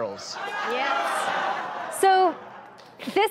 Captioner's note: audience gasps and laughs